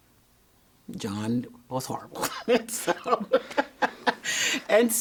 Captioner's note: laughing